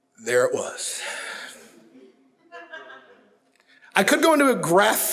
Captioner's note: audience chuckles